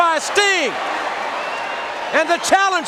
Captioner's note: crowd cheering